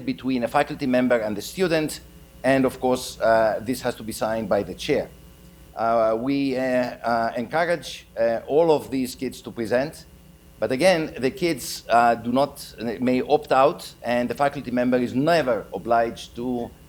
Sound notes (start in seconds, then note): none